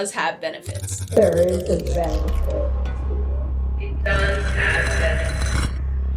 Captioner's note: clock slows; echoing